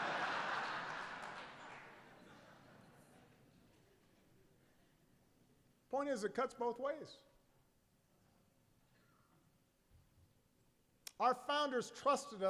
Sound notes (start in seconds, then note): 3.6 laughter